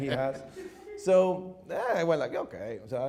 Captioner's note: audience chuckles